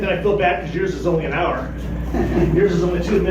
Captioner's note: chuckles